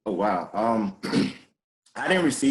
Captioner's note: clearing throat